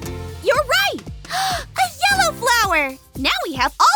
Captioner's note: gasps